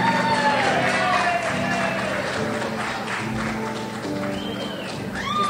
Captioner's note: crowd applauds and cheers